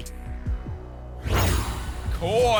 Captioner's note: whoosh